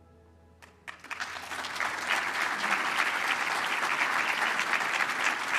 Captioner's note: applause